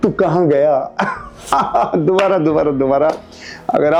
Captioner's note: laughing